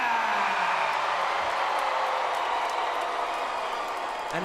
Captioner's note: crowd cheers